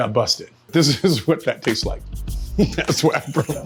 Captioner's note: laughing